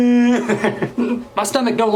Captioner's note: laughs